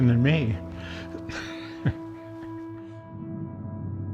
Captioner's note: laughs